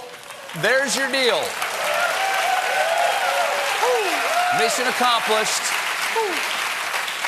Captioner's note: applause